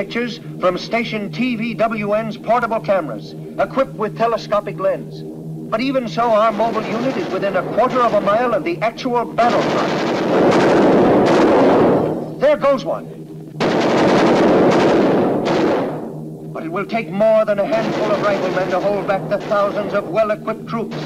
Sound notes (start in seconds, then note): 9.3 guns firing; 13.5 guns firing